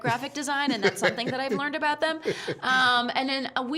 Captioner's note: laughing